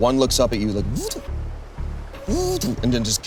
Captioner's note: robot buzzing